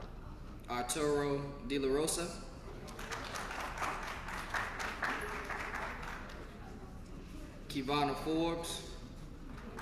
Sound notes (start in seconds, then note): 0.0 applause; 9.3 applause